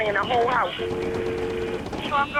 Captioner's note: dial tone